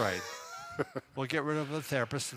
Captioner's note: laughing